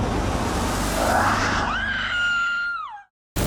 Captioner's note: screams